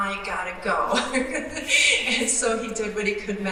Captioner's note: laughing